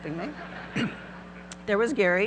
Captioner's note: audience laughing; clears throat